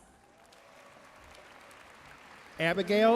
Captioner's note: audience cheering and applauding